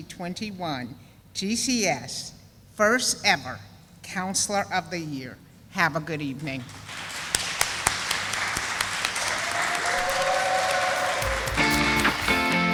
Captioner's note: sound of applause